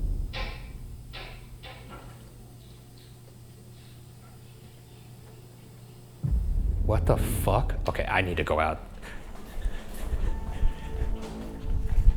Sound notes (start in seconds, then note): 0.0 audio static; 0.3 object knocking; 2.4 object tapping; 9.0 suspenseful music; 9.4 panting